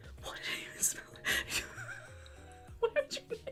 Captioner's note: laughing